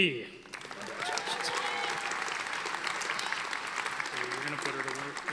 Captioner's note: audience applauding